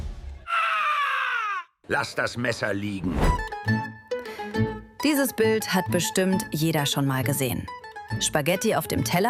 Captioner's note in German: schreien